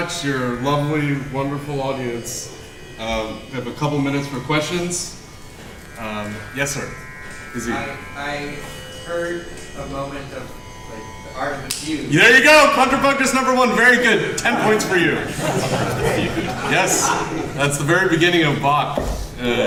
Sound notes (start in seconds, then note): 14.4 laughter